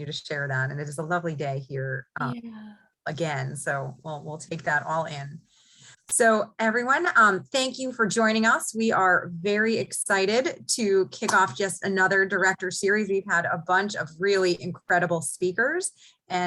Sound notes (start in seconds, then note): none